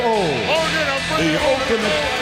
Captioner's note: The Giant vocalizing